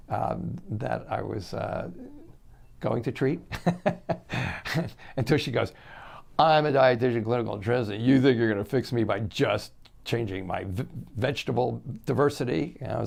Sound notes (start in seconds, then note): 3.5 chuckles